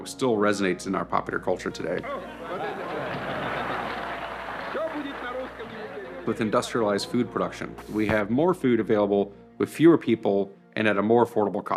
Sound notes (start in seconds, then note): 2.4 applause